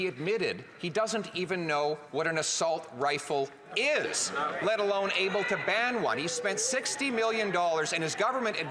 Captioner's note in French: voix de l'interprète